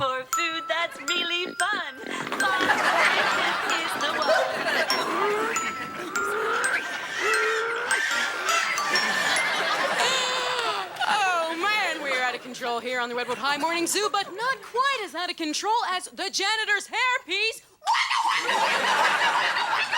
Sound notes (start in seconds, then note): 4.6 audience laughing; 5.9 chimes jingle; 6.2 farm animals screeching; 17.8 Morgan screams